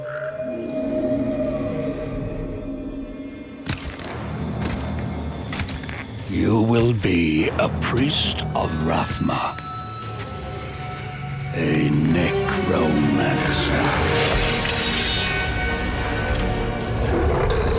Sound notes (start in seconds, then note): 0.2 birds squawking; 15.7 metal scraping